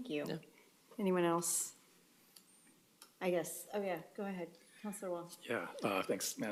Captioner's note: speaking Spanish